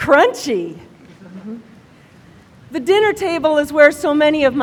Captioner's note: laughter